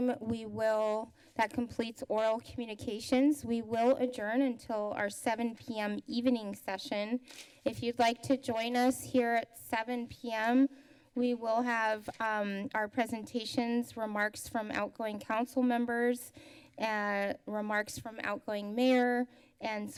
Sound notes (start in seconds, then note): none